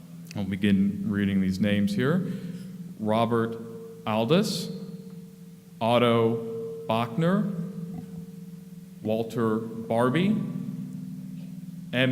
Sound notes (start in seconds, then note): none